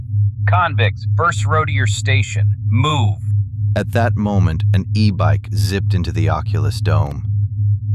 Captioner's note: commanding